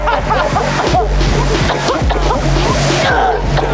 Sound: laughter; coughing

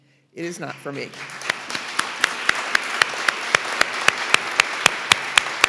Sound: audience applauding

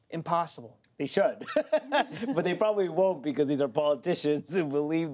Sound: laughs

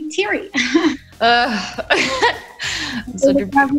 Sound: both laugh

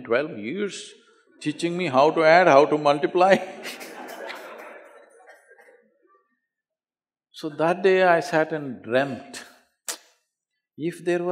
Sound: laughter

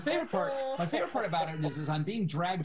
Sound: laughs

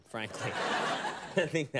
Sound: studio audience laughs

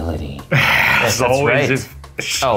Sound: sighs

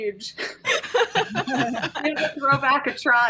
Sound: players laughing

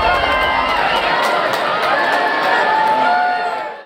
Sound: crowd claps and cheers

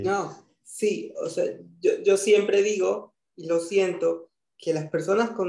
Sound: speaking in foreign language

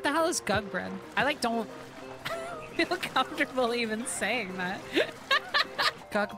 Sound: laughter

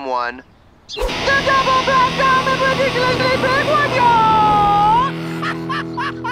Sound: shouting

